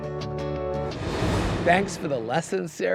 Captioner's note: upbeat music continues; graphics whooshing